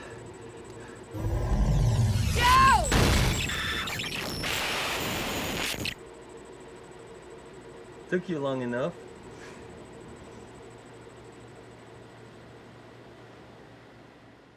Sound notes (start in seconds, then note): 0.4 electrical humming; 3.5 electronic squealing